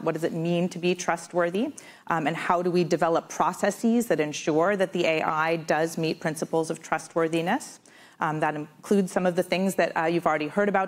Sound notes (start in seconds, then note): none